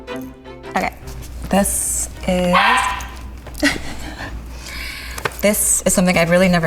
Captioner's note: dog barking